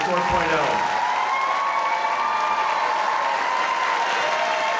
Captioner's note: audience applauding